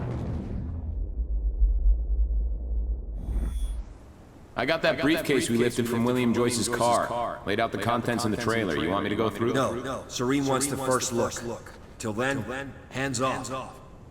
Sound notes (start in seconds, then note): 5.0 as an echo from the past